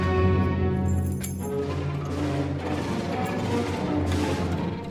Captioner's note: keys jingling